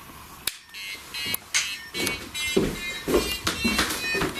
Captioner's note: melodic beeping